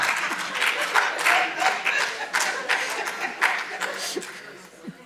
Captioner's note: audience laughing